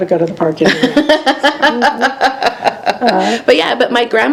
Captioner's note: laughing